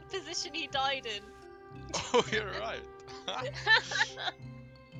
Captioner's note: haha